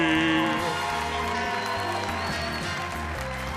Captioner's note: audience applauds; audience cheers